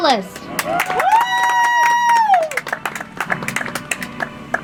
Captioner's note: audience applauds; soft music